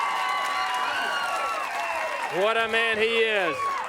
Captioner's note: crowd cheering